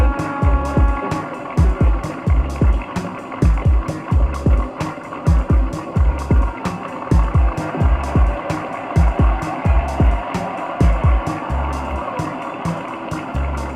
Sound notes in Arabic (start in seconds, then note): 0.4 تستمر الموسيقى الإيقاعية; 7.2 تصفيق الجماهير